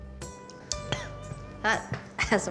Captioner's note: coughs